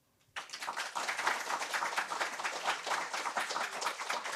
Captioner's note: applause